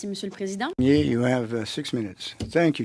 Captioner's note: speaking French